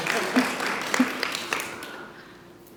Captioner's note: applause